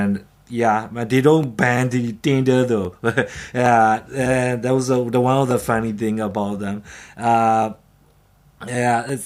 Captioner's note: chuckles